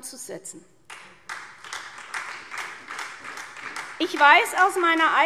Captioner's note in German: Beifall SPD